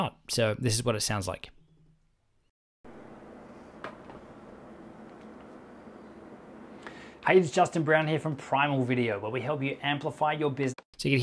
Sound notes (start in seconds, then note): 2.8 air conditioner humming